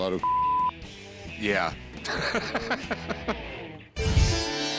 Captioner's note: laughs; asian music